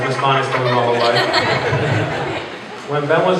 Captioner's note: laughter